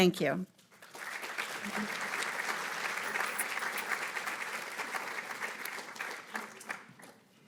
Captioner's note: applause